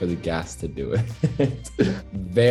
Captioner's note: Noah giggles